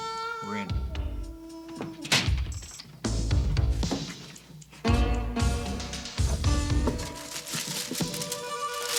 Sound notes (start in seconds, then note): 2.1 safe cracks open